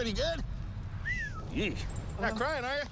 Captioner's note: whistles